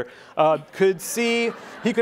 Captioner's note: laughing